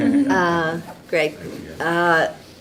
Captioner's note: laughing